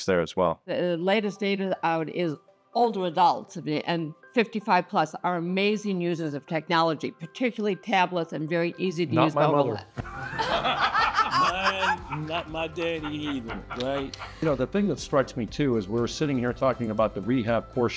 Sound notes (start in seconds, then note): 10.0 laugh